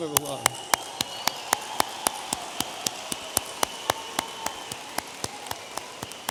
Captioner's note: audience applauding and cheering